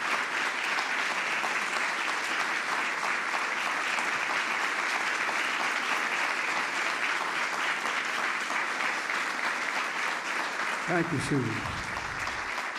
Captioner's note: applause